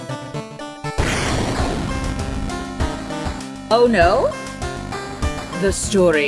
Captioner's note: big noise